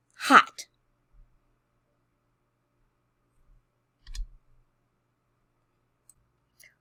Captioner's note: click